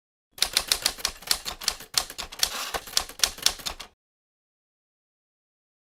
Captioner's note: typewriter clicking